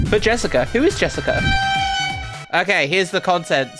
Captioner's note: kitchen nightmares sound